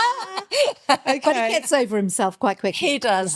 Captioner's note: laughing